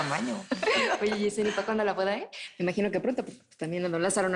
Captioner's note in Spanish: Risas